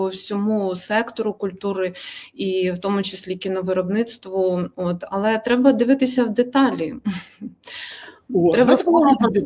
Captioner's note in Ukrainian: сміх